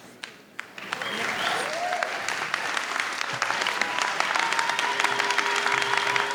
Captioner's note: audience cheers and applauds